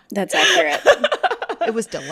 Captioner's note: laughter